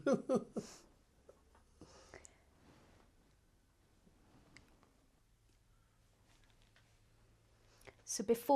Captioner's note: laughs